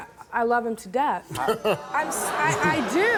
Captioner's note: Steve chuckles; audience groans